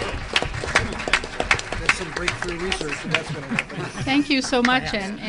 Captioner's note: audience Laughter; applause